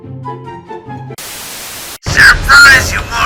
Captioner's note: TV statics